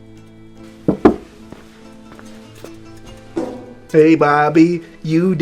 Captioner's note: uptempo mellow music; knocking at door